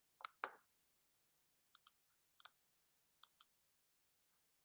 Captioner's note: clicking